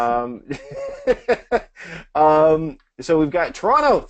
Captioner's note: laughs